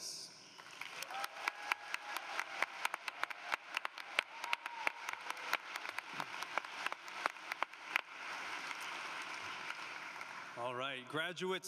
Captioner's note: cheering and Applause